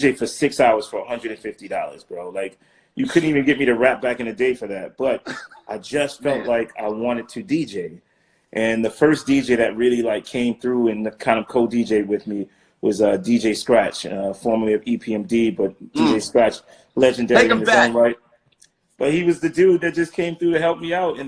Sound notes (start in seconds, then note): 5.1 laughing